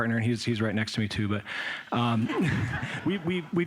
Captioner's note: laughter